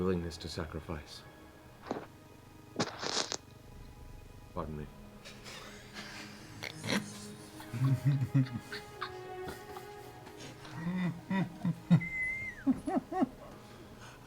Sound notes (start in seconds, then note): 3.2 mic bump; 5.7 laughter